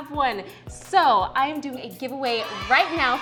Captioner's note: sound of children cheering